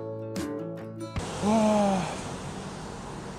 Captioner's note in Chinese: 嘆氣